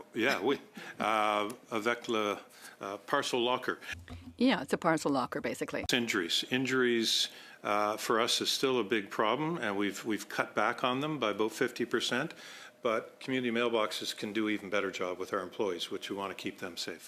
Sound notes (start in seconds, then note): 2.9 speaking in French